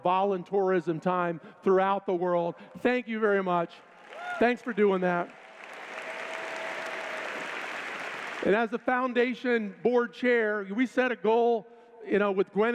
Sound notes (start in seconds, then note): 3.9 cheers